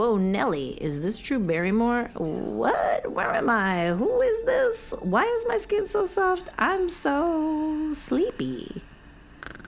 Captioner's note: snores